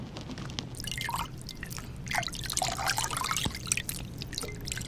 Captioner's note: water splashing